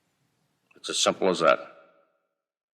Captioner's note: archival news audio